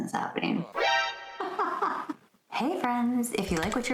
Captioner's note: muppet laugh